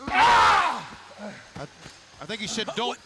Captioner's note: the Demon screaming